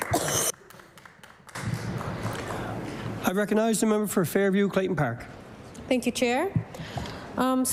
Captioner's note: applause